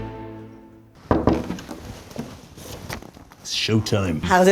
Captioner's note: knocks